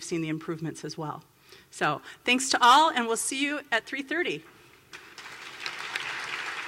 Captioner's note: applause